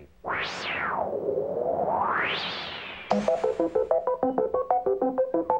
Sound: whooshing electronic tones

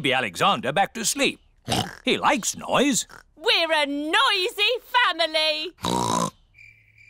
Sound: oinks

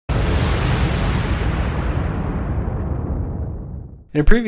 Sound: dramatic crashing; voiceover

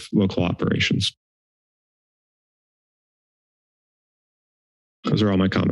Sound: silence

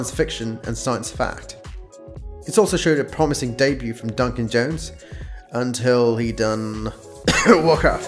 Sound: cough

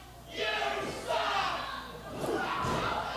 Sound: crowd

